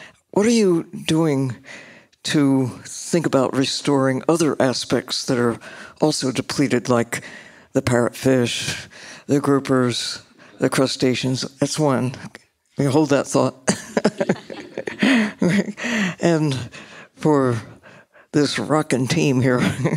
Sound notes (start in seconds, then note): 13.8 laughs